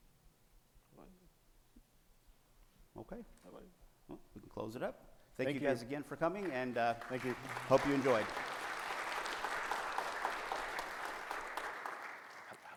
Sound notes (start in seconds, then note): 8.5 audience applauding